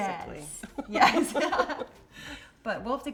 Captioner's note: both laughing